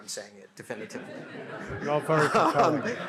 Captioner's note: laughter